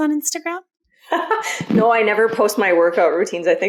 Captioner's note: laughs